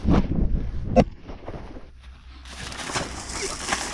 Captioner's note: wind howling